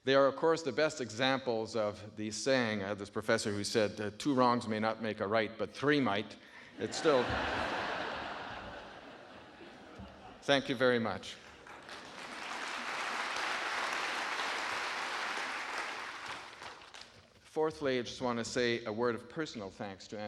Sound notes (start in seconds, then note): 6.7 audience laughing; 11.4 audience applauding